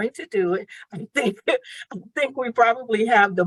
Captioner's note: chuckles